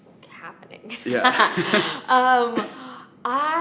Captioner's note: laughing